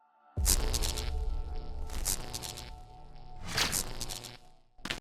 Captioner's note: static crackling